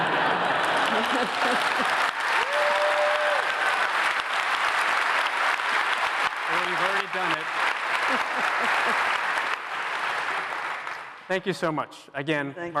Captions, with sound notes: [APPLAUSE] Well, you've already done it. [CHUCKLES] Thank you so much. Again-- Thank you.